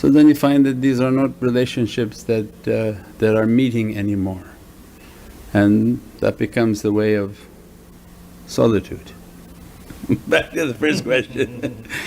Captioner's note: laughs